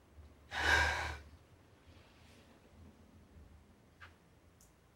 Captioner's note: Margaret sighing